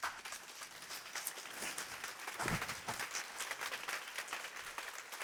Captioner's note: applause